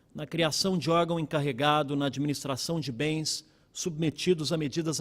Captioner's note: speaking Portugese